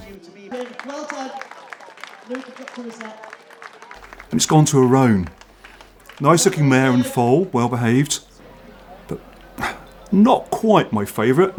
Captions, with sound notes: [clapping] And it's gone to a roan. Nice looking mare and fall, well behaved. But not quite my favourite.